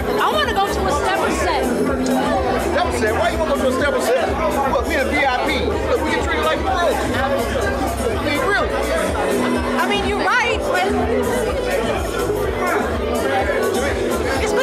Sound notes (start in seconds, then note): 2.6 scoffs